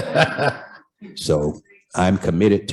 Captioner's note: laughter